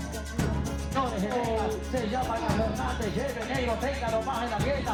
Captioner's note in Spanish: Audio hablado en español